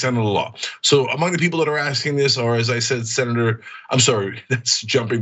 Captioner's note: laugh